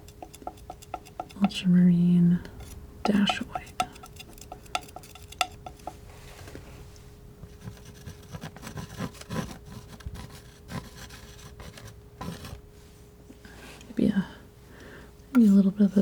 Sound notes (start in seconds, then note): 3.0 tapping